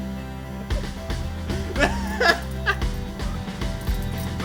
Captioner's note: laughter